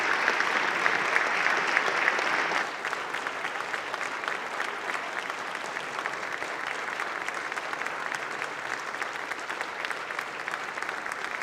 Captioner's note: applause